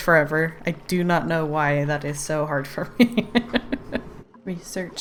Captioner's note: laughs